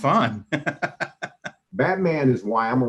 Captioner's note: laughs